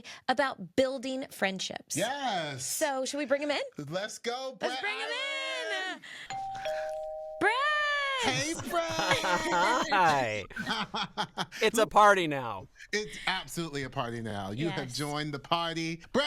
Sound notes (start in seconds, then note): 6.3 doorbell rings